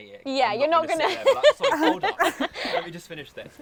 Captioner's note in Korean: 웃음